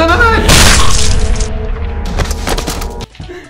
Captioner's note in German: flatsch